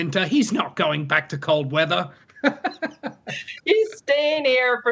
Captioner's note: laughs